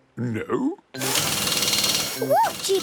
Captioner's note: drilling